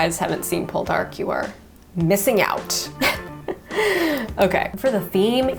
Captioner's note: chuckles